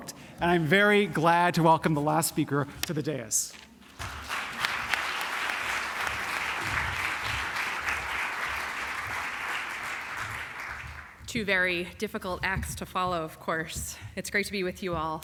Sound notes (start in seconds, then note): 3.9 applause